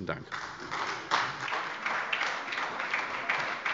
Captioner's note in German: Beifall bei der SPD